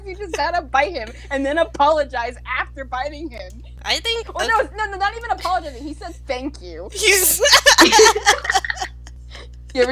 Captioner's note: laughter